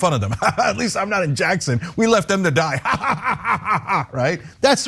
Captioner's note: laugh